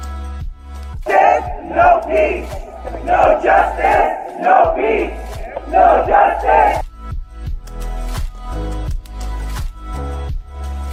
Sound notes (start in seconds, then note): 1.3 chanting; 7.3 background music